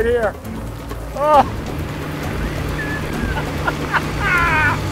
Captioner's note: maniacal laughter